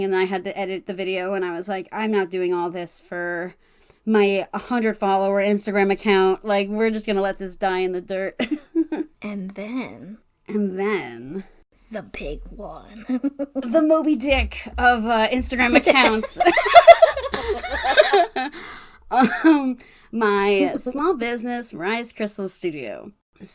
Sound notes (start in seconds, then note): 18.0 laugh